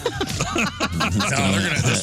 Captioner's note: laughing